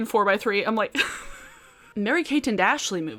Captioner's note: giggles